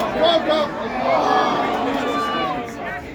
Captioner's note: collective groans